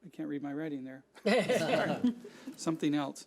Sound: audience laughing

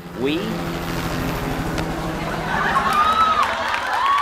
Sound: helicopter whirring

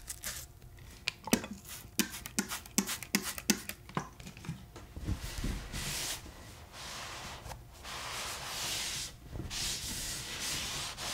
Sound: sounds of cleaning the table

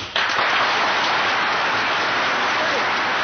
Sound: applause

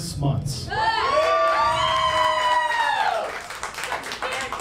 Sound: crowd cheering

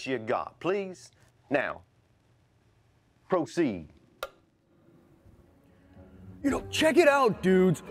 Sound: switch clicking

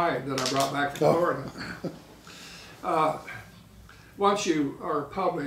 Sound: laughing

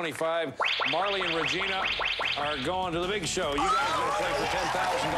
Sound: electronic beeping

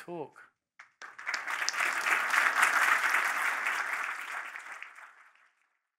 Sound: applause

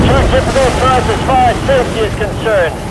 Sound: radio static

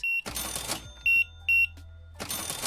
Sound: beeping

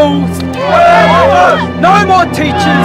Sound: crowd

